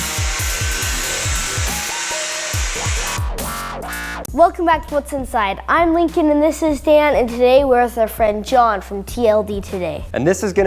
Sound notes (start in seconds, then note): 0.0 buzz saw